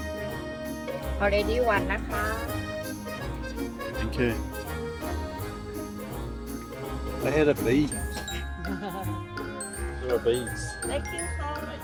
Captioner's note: laughing